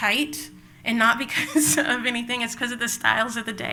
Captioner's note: laughs